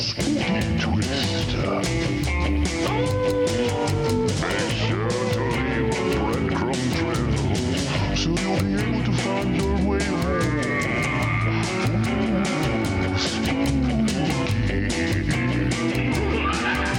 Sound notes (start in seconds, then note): 2.9 wolf howling